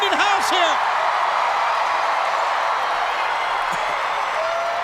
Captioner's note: crowd cheers